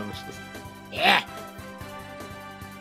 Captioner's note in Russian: восторженный вопль рептилоида